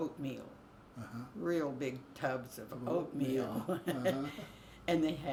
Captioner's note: both laugh